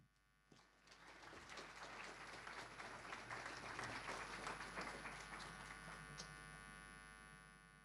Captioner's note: audience applause